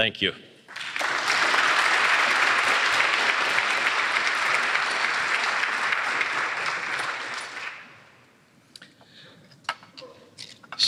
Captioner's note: applause